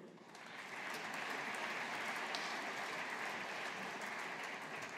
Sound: audience applauding

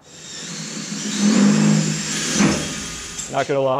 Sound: construction noises

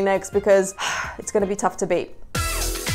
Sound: sighs; upbeat music

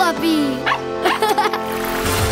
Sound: laughing

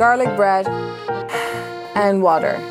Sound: sigh

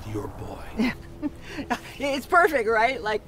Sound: Helen laughing

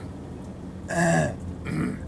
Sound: clears throat

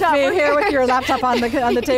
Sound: laughs

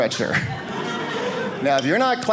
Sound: audience laughing

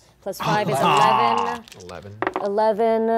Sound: groaning

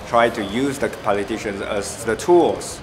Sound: none

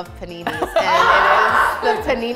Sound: groans

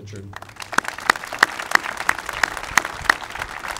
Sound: applauding

